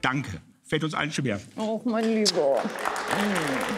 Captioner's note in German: Kussgeräusch, Applaus